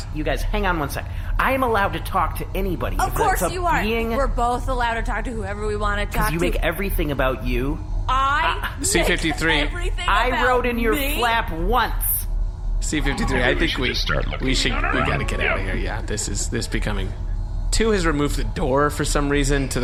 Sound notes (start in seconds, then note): 8.9 in disbelief